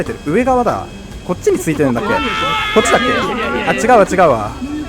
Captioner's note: crowd Panics